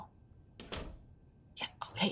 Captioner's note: door thudding